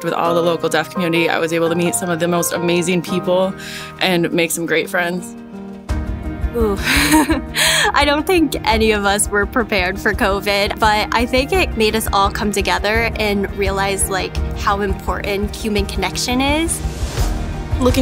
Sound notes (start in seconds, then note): 6.8 laughs